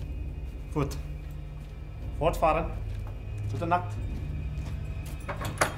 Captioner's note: speaks in German; door clangs